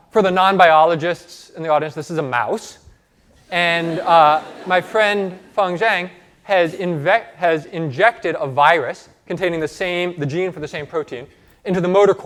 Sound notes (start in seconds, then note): 3.5 laughter